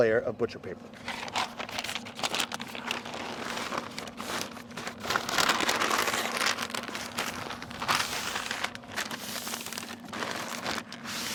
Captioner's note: sounds of paper folding, wrapping of brisket